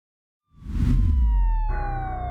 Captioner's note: siren wailing; pensive music